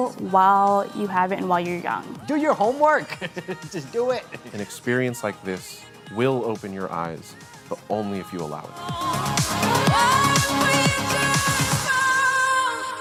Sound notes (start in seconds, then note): 3.0 laughs